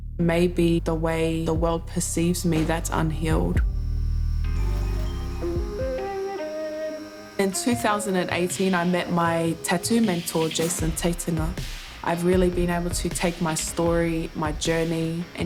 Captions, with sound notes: Maybe the way the world perceives me that's unhealed. (tattoo gun whirs) (upbeat music) In 2018, I met my tattoo mentor, Jason I've really been able to take my story, my journey,